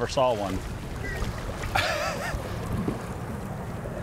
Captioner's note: laughs